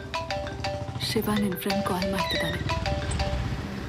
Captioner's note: mobile ringing